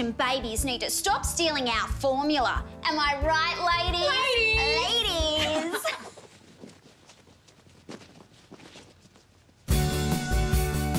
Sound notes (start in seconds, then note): 4.1 laughing; 5.8 rustling